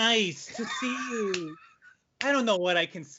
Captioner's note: chuckles